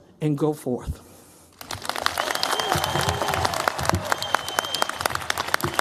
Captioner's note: cheers, applause